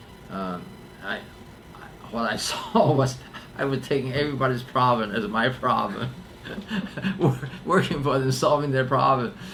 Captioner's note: laughs